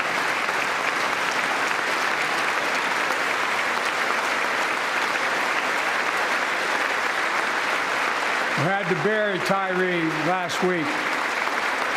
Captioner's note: applause